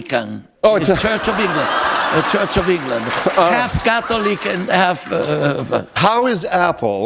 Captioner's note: laughter